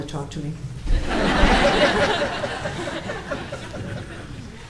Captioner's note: audience laughing